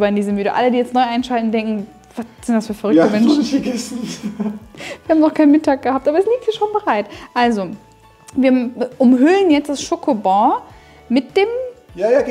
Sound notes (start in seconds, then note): 3.0 laughing